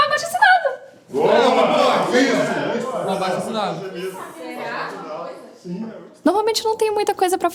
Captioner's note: voices agreeing